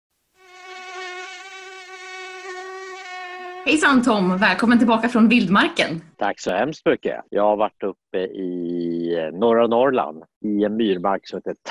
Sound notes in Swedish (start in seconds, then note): 0.3 mygga surrar